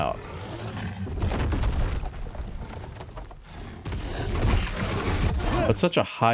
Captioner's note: grunting